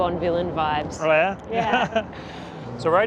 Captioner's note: laughs